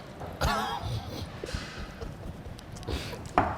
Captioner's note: laughing